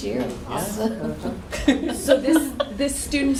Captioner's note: laughter